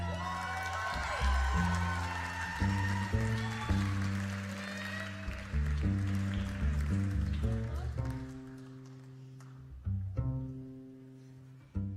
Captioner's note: applause